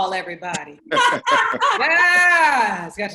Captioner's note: laughs